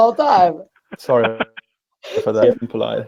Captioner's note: distortion muffles speaker